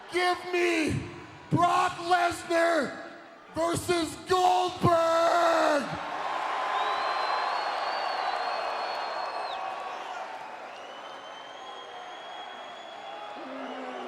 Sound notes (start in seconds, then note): 5.3 audience cheering